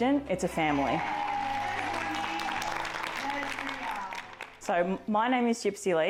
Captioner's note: everyone cheering